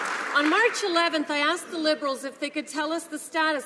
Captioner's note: some Applause